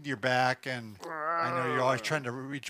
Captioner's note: groans